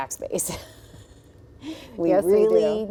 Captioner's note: chuckles